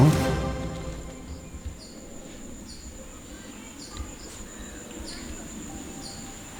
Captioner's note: rustling leaves and insect sounds